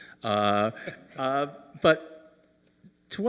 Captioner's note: Angus chuckling